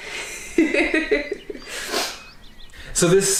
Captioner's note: laughs